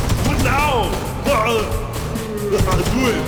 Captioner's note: laughs